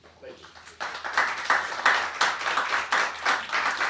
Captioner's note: audience clapping